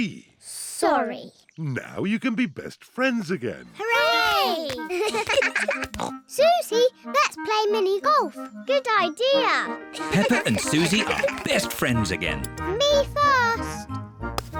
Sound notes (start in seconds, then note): 4.8 both giggle